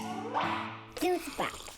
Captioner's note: logo pops; straw slurping